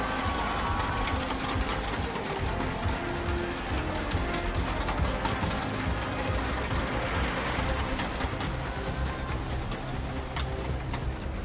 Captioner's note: cheering